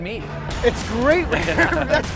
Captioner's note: hearty laughing